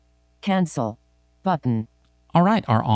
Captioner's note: automated Female Voice